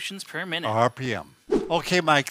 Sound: air whooshing

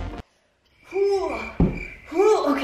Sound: exaggerated grunting

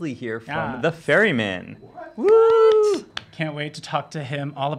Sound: cheers

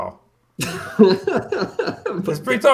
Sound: laughs

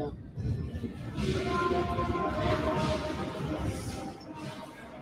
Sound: indistinct chatting

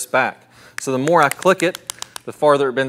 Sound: device clicks

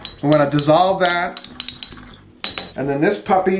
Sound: spoon clinking

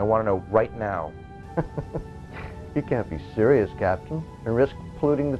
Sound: laugh

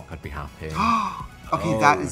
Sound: Trixie gasps

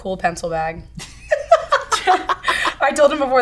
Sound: both laughing

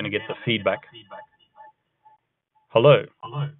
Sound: feedback echoes

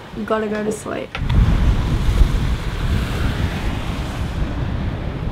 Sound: strong wind blows

